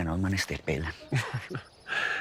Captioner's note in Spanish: Risas